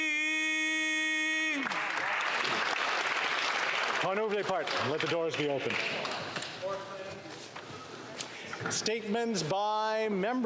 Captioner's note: applause